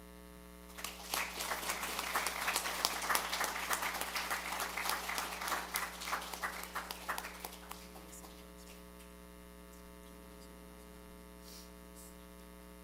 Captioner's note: applause